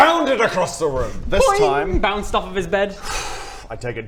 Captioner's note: boing!